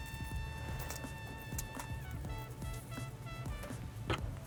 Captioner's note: onion crackling